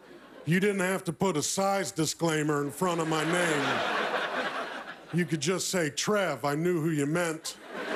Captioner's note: laughter